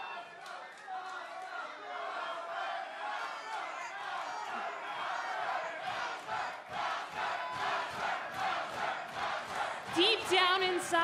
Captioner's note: fans chanting